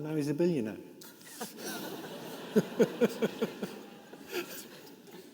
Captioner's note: participants laughing